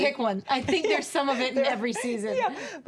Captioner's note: chuckles